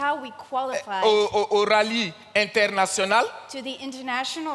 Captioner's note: continues in French